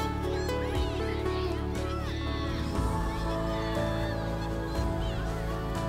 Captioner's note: children Cheering